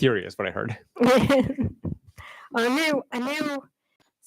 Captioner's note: laughs